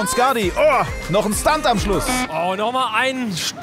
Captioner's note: buzzer